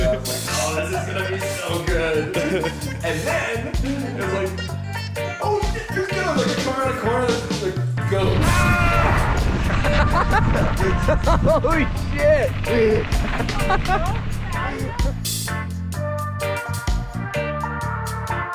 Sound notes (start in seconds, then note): 10.0 laughing; 14.8 reggae music continues